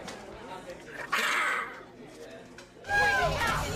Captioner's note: snarls; shrieks